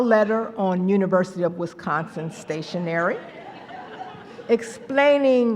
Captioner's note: laughter